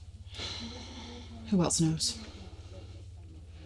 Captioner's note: sighs